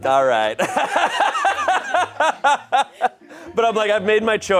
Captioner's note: audience laughing